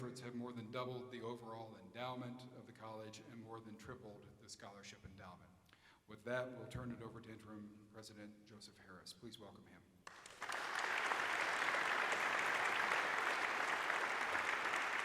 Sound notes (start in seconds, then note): 10.0 audience applauds